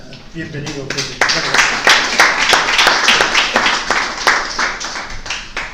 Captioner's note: applauses